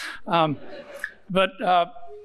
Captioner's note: audience chuckling